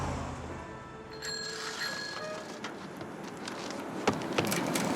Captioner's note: bell ringing